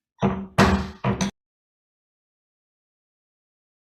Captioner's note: gavel bangs